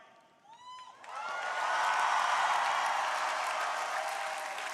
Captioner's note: crowd applauding